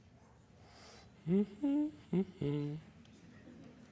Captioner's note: hums